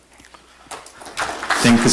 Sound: audience applause

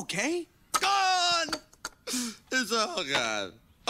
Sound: sniffles

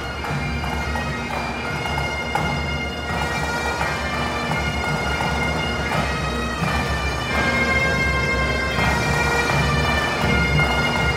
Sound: cheers and applause

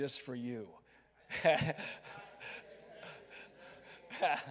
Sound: laughing

